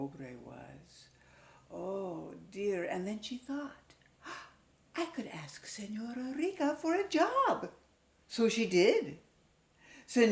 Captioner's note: gasp